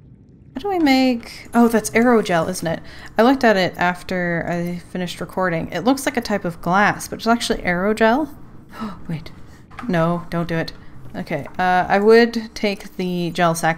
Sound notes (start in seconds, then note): 8.5 gasp